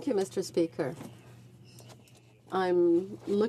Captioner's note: speaking French